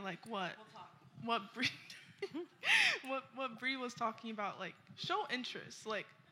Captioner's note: chuckles